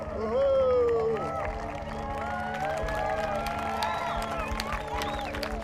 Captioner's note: crowd applauding and cheering